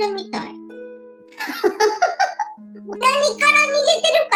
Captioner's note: laughs